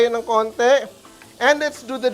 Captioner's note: sizzles